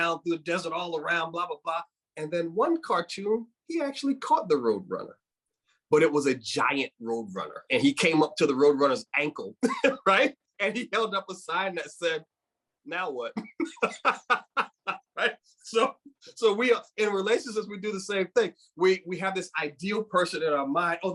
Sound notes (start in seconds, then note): 9.6 speaker laughing; 13.3 speaker laughing